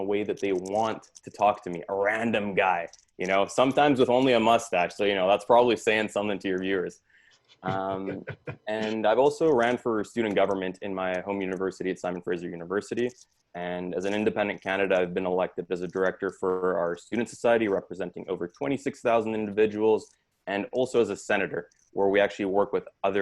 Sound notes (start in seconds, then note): 7.6 laughs